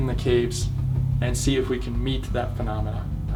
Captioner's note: none